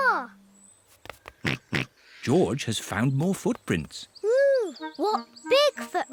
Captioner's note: snorts